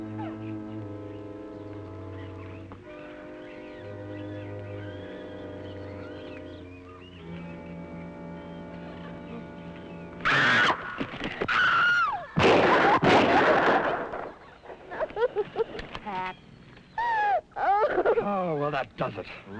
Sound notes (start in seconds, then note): 0.0 birds chirping; 0.0 tense music; 10.2 Pat screams; 12.3 shots firing; 13.3 Pat sobbing